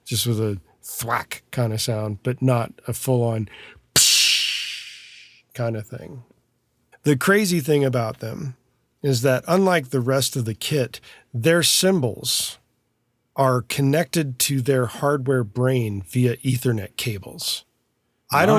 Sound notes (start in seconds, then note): 3.9 imitates thudding